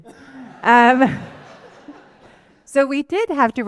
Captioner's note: laughter